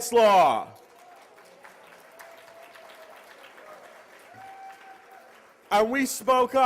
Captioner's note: applause